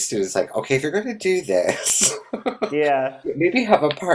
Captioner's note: laughs